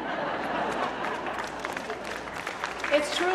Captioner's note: laughter; clapping